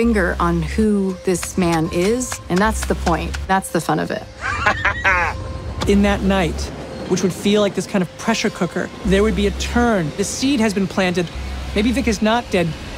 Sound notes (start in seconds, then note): 4.4 laughs